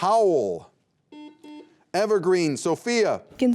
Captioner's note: beep